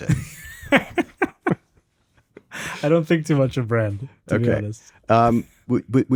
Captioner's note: laughs